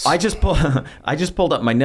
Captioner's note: laughs